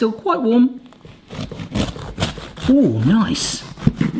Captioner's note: bread cutting